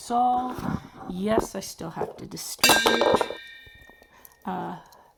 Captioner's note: pen hit camera stand, clang